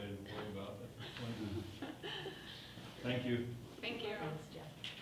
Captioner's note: people laughing